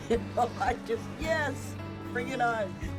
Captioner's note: chuckling